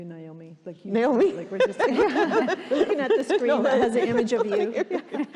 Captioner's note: laughing